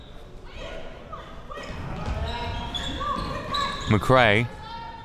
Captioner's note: players yelling